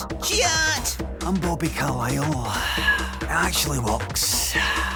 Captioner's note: sighing